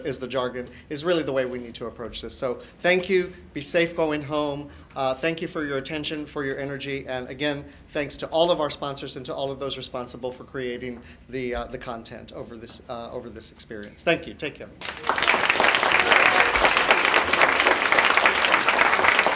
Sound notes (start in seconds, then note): 14.8 clapping